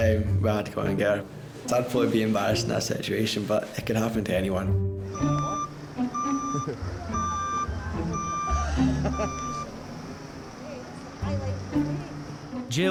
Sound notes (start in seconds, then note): 4.7 boat beeping; 5.2 gentle music; 8.5 all laughing